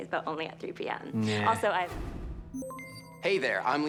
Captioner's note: system beeps